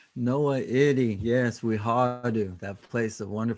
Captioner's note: speaking native language